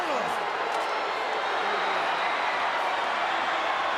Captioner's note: crowd yelling